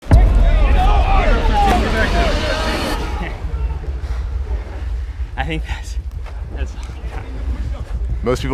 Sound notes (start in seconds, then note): 0.1 recruits chattering